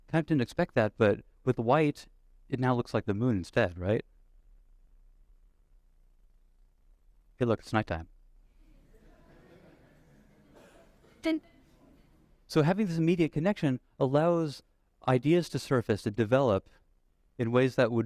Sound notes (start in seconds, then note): 8.6 laughter